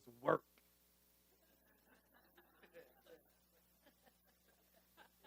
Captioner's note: audience laughing